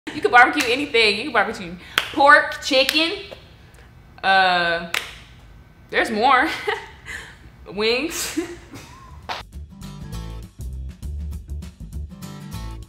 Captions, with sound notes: - You could barbecue anything, you could barbecue pork, chicken, um, (claps hands) there's more. (giggles) Wings. (giggles) (playful music)